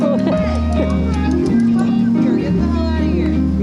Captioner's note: angry noises